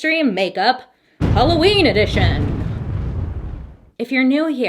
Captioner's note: thunder rumbling